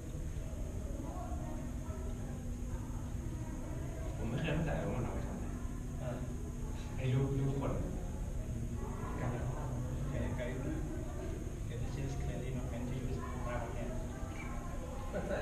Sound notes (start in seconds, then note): 4.5 general conversation